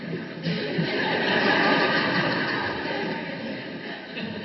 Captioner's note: audience laughs